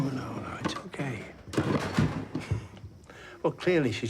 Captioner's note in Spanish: objetos ruidosos